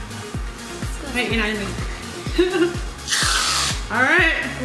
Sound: laughs

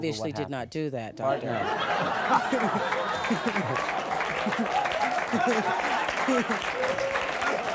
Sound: audience laughs and applauds

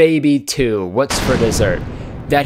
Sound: slamming Sound effect

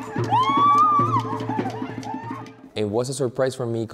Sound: screaming

